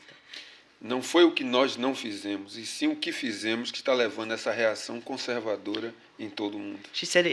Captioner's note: speaking portuguese